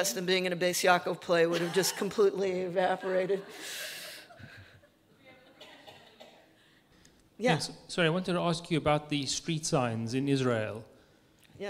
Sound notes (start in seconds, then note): 2.9 audience laughing